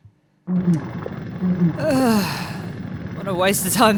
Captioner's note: disappointed sigh